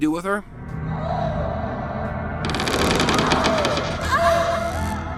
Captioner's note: groaning